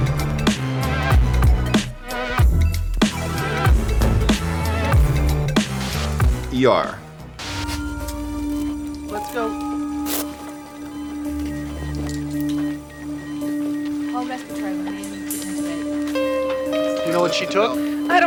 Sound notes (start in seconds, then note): 10.0 dramatic music; 11.3 heart rate monitor beeping